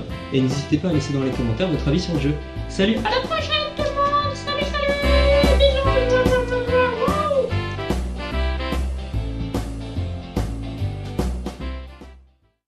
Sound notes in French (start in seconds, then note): 6.7 bruits de baisers caricaturaux et petit cri